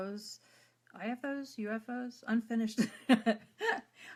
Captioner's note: laughs